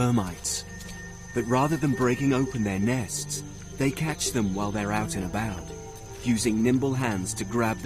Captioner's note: light dramatic music; leaves rustling